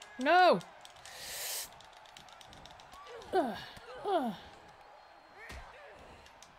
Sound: applause; applause

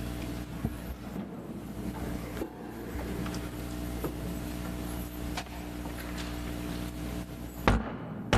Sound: gavel bangs

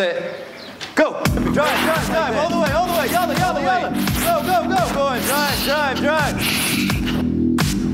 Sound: shouts of encouragement

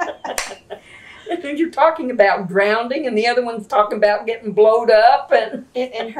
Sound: laughter

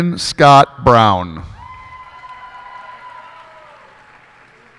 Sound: cheers and applause

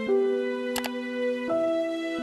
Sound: click sound

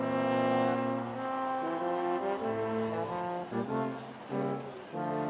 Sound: none

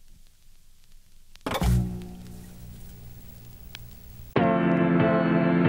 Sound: audio crackling

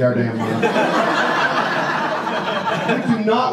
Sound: audience laughs

